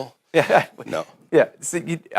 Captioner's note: laughs